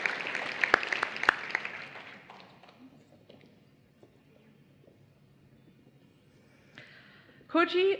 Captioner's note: applause